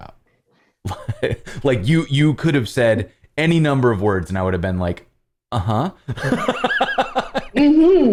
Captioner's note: laughter